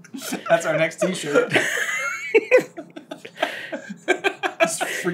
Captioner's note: laughter